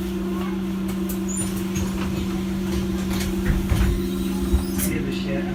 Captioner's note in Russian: закрытие дверей